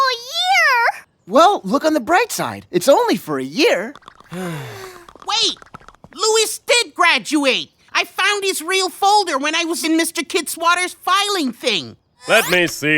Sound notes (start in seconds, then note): 4.3 sigh